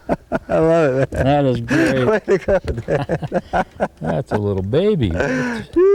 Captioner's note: laughter